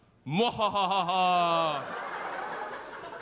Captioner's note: evil laughs